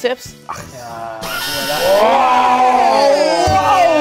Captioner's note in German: bewundernd-grölend